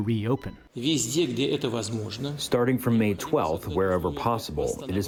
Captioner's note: through translator